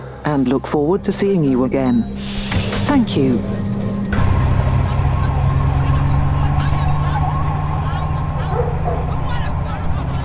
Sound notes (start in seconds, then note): 4.7 dogs barking; 4.7 sirens in distance